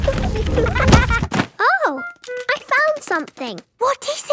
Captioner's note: thuds